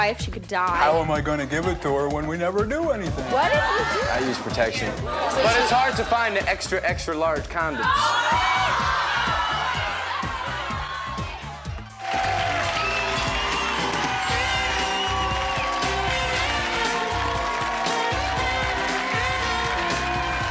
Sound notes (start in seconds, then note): 5.0 audience uproar; 8.5 audience outrage; 11.7 laid back jazzy theme music; 12.5 applause